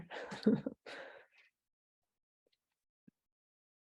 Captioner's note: chuckling